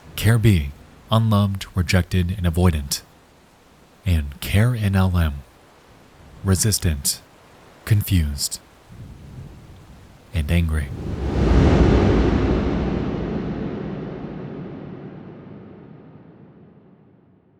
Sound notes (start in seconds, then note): 10.9 booming sound